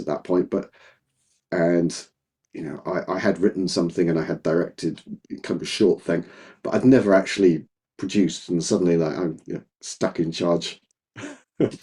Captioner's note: laughing